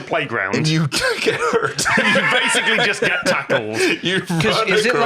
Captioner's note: laughs